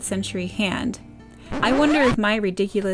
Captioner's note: record scratch